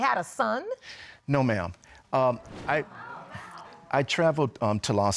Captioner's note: audience exclaiming